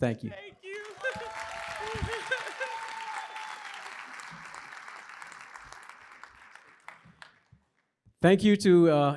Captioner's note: laughter; applause